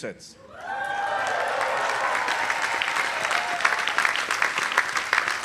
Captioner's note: audience applauding